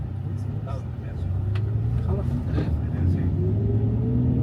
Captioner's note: bus engine purring